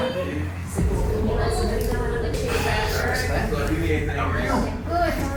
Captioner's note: chatter